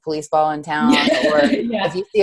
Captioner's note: chuckles